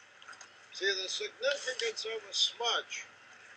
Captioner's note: man's voice